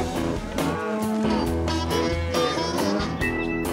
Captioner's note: cows moo